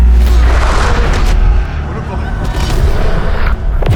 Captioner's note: distant screams; Irinarkh groans